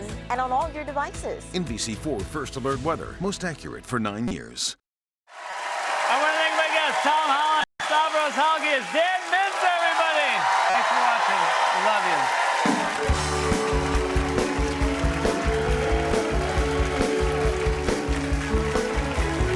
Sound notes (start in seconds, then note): 8.3 cheers and applause; 12.1 cheers and applause